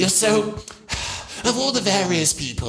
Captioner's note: sigh